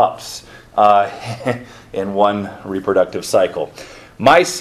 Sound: chuckles

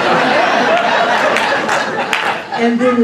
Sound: laughter

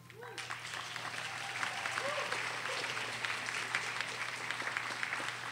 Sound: audience applauding

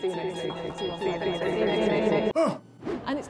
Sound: voices echoing

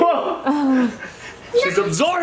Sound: laughter; mom groans

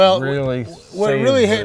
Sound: laughing

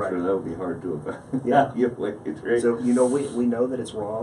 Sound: laughs

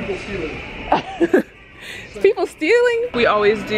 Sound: laughs

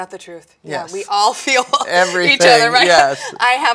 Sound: laughs

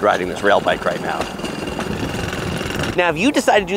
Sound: railbike clanking

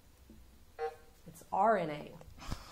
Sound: buzzer sounding

